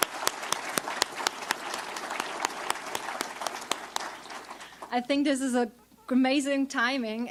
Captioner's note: applause